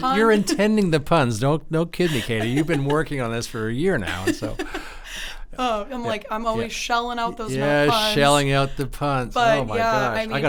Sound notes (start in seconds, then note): 3.9 giggles